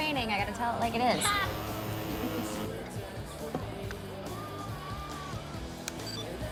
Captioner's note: Izzie laughs; phone vibrates